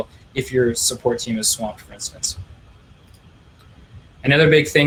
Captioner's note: clicking